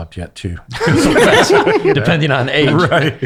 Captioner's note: laughing